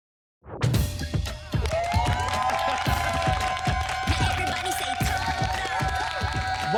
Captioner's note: r&b music playing; audience applauding